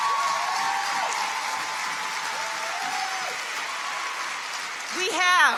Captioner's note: audience cheers and applauds